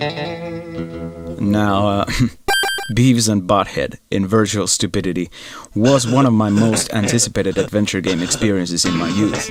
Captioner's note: heh